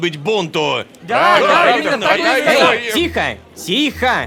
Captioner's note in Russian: Толпа